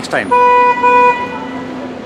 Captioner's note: cars honking; honking horns